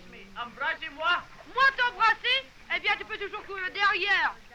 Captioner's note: continue conversing in french